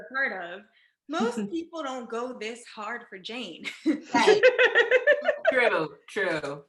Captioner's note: laughs